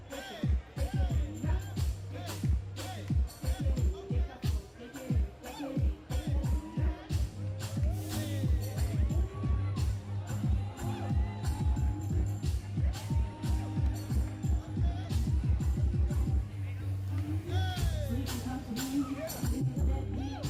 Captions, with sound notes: but also empower the community is very important as well. (audience cheers) (upbeat music)